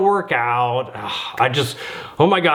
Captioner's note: sighs